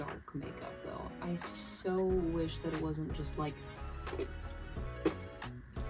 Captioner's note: spatter noises